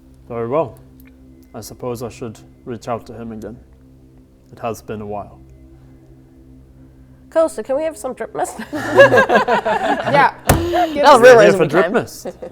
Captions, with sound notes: Very well I suppose I should reach out to him again It has been a while Cool, so can we have some drip mist? *laughing* Yup Now the real reason we came - You are here for drip mist?